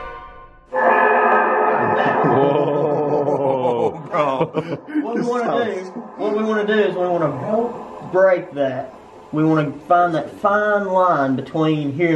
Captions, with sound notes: Whooaa. Bro [laughs] What we wanna do is we wanna help break that. We wanna find that fine line between